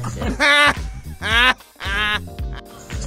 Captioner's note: chuckling